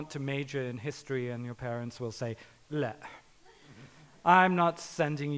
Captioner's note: speaking in foreign language